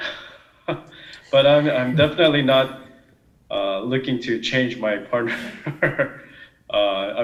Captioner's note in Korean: 질문자 웃음; 질문자 웃음